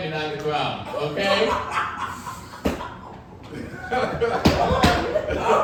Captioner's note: audience laughing